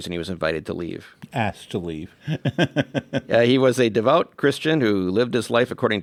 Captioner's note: laughs